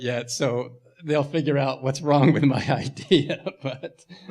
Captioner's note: laughing